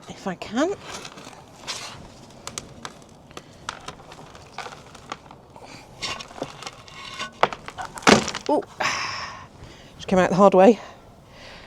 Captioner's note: crash